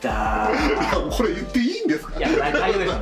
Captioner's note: laughs